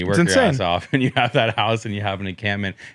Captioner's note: laughs